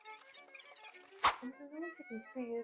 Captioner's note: swish!